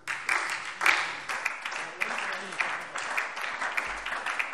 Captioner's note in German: Beifall SPD